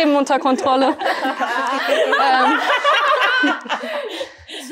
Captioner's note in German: Gelächter